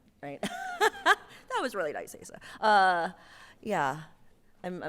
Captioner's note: laughs